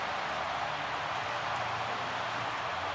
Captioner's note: crowd cheering